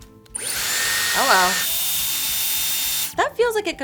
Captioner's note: dryer whirs